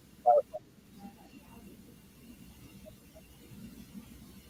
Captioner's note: audio distorts